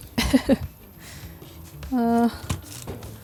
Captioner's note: laughter